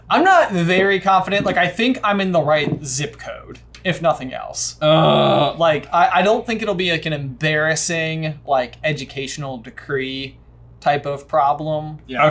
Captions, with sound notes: - I'm not very confident, like I think I'm in the right zip code, if nothing else. (frustrated groan) Like I don't think it'll be an embarrassing educational decree type of problem.